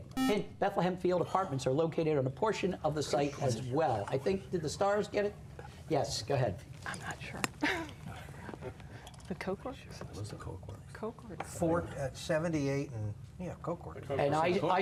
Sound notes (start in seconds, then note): 8.7 whispering